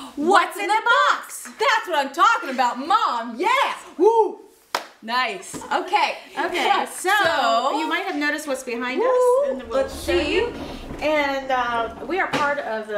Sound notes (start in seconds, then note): 4.7 clap